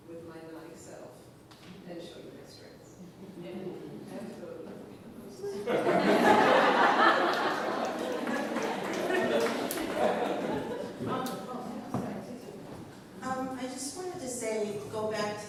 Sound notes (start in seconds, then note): 5.5 applause; 5.6 laughter